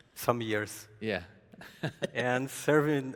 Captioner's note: chuckles